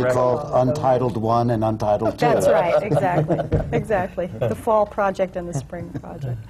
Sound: laughter

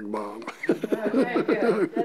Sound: laughter

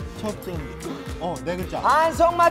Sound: deep Sigh Out Of Frustration

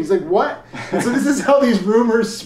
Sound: laughs

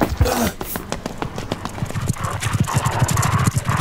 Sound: Papi grunts; scorpion scurries

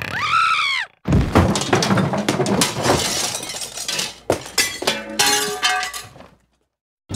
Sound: a woman shrieks followed by a loud crashing sound as she hits the floor

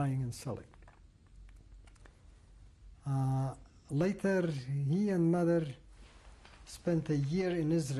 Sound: pauses for 3 seconds

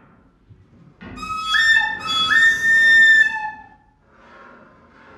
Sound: whistling

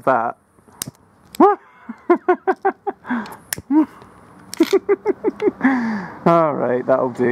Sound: laugh of glee

